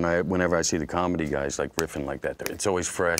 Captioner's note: snaps fingers